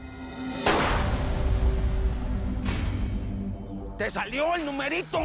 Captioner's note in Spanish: Disparo